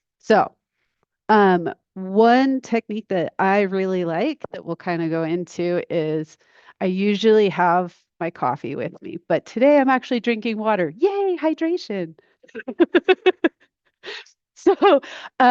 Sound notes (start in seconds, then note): 12.5 laughs